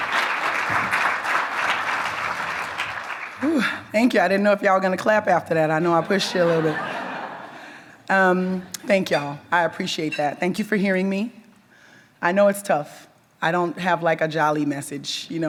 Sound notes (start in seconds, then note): 6.0 audience members laugh